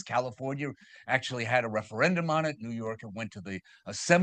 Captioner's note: none